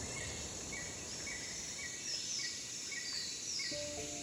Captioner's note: birds twittering